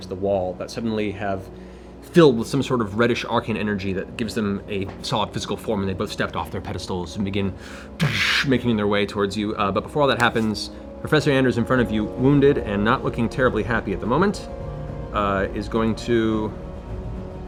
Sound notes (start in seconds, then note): 7.7 heavy impact